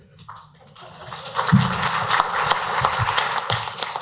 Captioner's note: applause